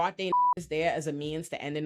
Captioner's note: beep